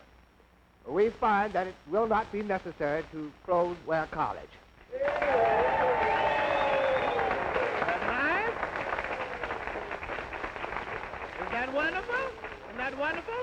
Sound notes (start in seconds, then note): 8.2 applause